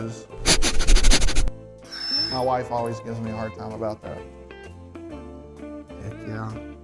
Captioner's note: sniffing